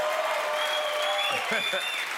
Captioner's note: cheers and applause